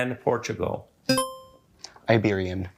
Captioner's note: buzzer chimes